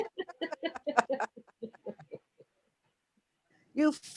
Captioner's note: laughing